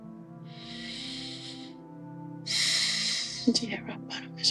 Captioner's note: Michael sighs